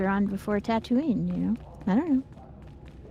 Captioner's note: none